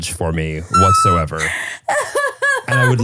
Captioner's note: laughing